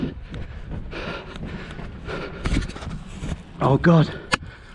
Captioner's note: panting